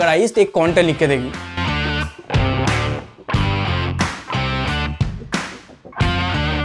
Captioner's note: applause